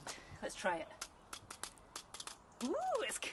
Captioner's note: tapping sound